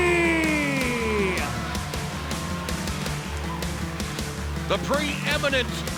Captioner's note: crowd cheering; rock music